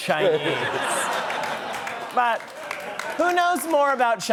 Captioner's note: laughter